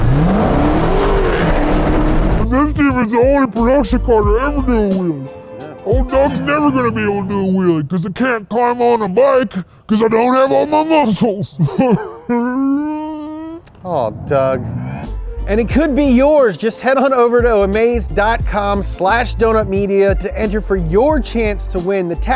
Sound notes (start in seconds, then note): 0.0 engine roaring; 11.9 cries